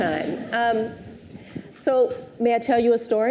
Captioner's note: audience chuckles